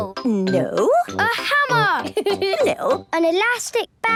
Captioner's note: giggling